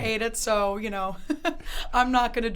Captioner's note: laughs